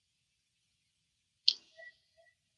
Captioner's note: clicks tongue